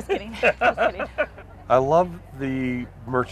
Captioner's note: laughter